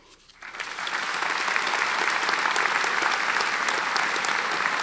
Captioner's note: audience applauding